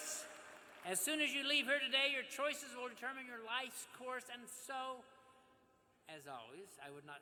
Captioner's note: applause